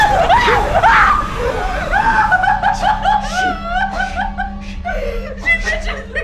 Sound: giggling and moaning

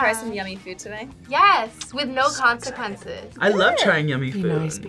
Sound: whispers

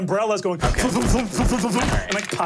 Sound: mimics umbrella opening and closing

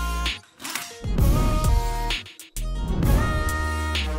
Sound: tool clattering

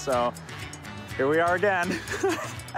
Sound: laughter

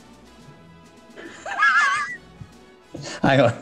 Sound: sniggering

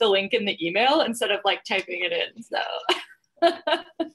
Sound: laughing

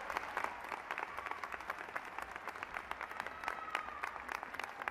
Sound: applause

